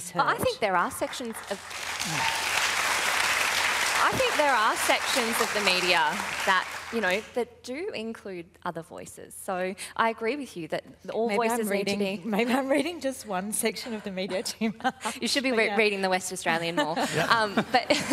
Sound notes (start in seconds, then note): 3.1 applause; 14.3 both laugh; 16.6 laughter